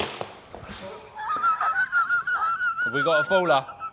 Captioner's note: laughter